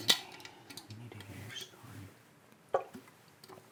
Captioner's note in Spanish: frasco sonando